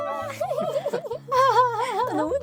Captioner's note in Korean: 연이은 웃음소리